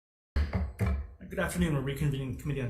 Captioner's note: gavel bangs